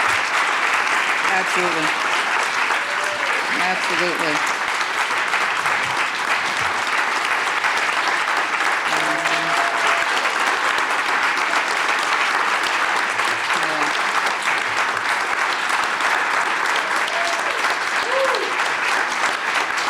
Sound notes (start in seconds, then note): 4.5 audience applause